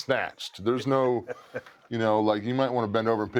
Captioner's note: laugh